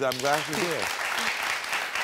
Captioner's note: audience clapping